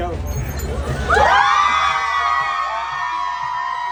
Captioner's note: cheering